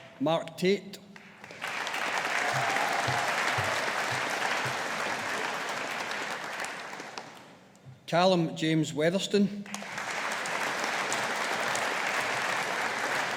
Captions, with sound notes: Mark Tait. (AUDIENCE APPLAUDING) Callum James Weatherston. (AUDIENCE APPLAUDING)